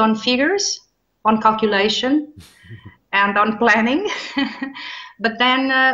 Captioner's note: chuckles